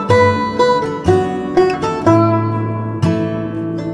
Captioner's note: none